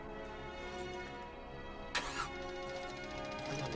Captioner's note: motor doesn't start